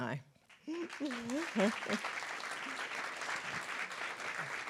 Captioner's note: laughs; applause